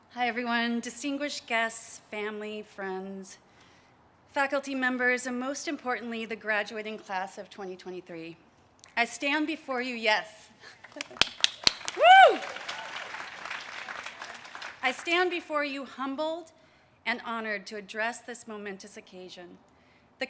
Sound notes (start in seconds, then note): 10.8 claps and cheers; 12.6 audience cheers and claps